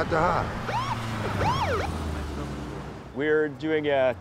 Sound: police sirens wailing

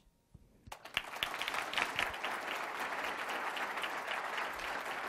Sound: applause

